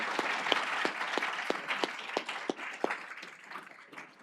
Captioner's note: applause